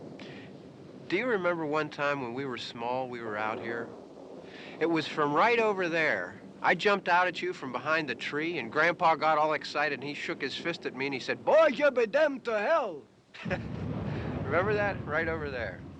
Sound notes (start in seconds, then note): 13.3 chuckles